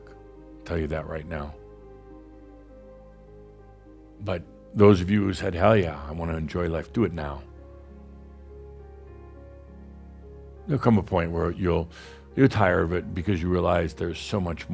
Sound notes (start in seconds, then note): none